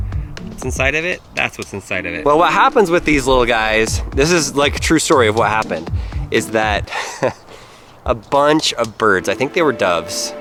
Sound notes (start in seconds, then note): 6.8 laughs